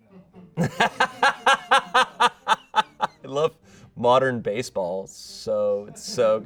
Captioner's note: laughs